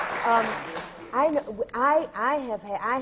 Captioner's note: applause